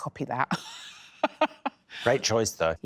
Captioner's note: laughing